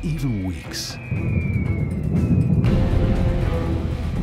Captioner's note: falling bombs whizzing